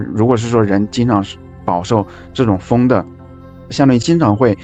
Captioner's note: airflow